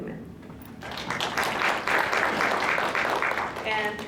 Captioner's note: applause